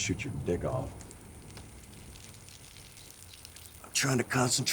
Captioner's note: urination trickling